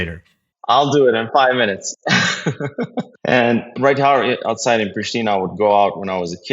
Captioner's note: laugh